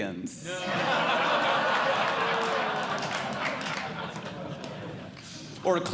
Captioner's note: audience Laughing